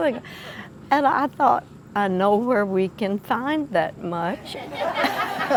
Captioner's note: laughing